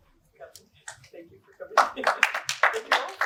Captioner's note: applause